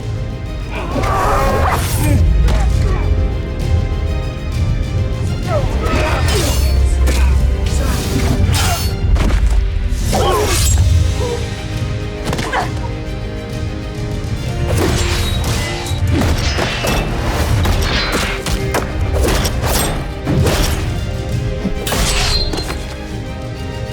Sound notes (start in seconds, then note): 0.2 swishing, clanging, thudding; 0.2 tense music playing; 5.2 grunting & growling; 8.3 clanging, swishing, thumping; 8.3 growling, grunting, groaning